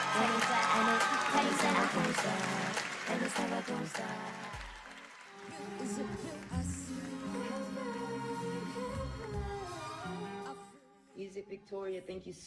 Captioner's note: applause